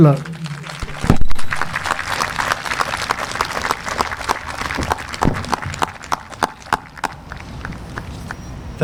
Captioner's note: applause